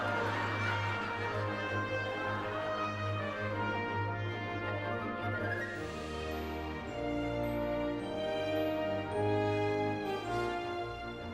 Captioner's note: audience laughing